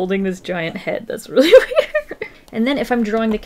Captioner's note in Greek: Γέλια